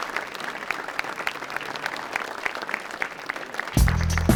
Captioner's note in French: applaudissements